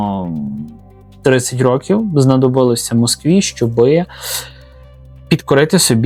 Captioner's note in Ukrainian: сопіння